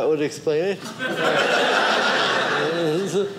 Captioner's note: audience laughing